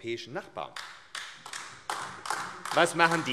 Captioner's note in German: Beifall AfD